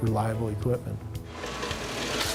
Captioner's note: sounds of machines running